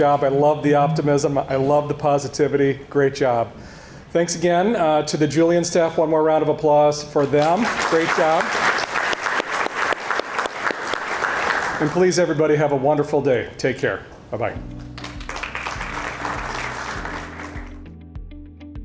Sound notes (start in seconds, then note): 7.2 audience applauding; 14.7 audience applauding; 16.1 gentle music